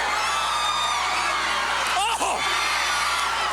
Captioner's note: crowd cheering